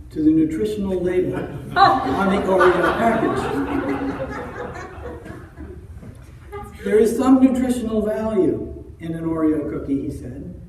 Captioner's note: audience laughter